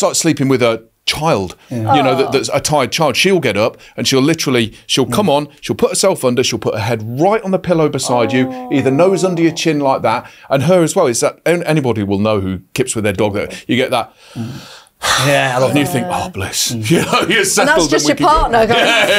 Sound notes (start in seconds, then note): 14.2 sighs